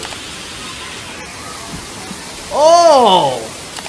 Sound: water rustling

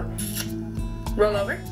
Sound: kissing sound

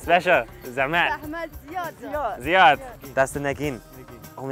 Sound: laughing; speaking Persian

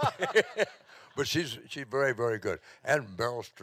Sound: audience laughing

